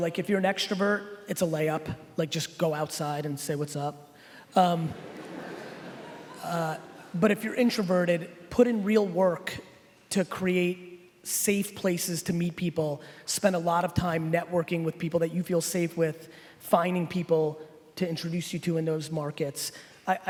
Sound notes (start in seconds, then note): 4.9 laughing